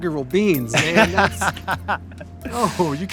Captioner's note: laughing